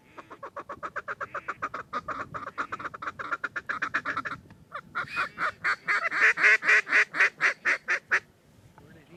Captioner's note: duck calls